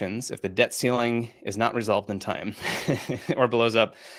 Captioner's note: laughs